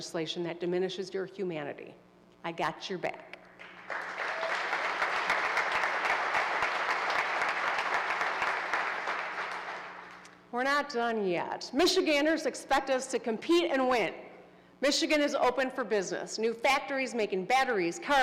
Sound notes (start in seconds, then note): 5.6 applause